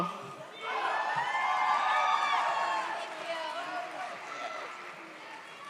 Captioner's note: audience cheers